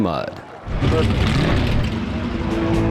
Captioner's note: engine revving